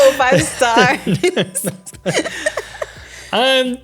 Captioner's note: laughing